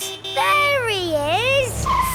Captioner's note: honking